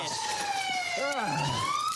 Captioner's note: radio chirps